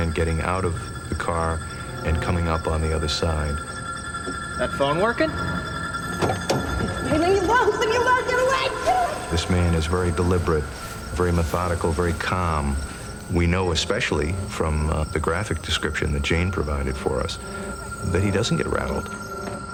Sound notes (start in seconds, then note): 3.7 suspenseful music; 6.3 screaming; 19.5 running